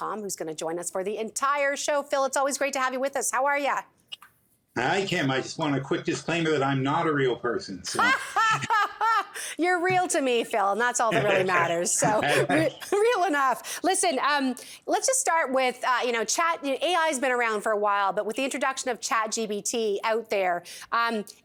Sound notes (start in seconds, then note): 8.0 laughs